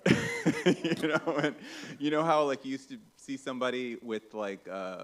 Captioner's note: laughs